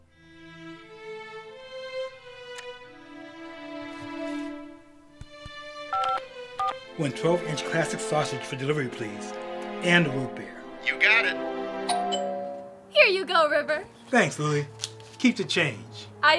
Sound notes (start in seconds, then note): 0.2 gentle music; 2.6 clock ticks; 5.3 finger tapping; 5.9 telephone beeping; 11.9 doorbell chimes